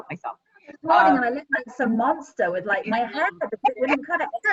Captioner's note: group chattering